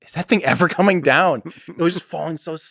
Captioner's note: Lex laughs